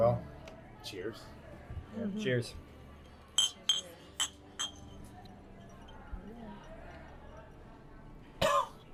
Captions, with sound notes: - Well, cheers. - Cheers. (glasses clinking)